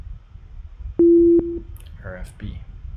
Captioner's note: medium tone beeps